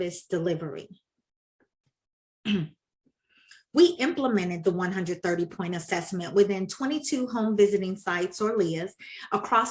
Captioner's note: clears throat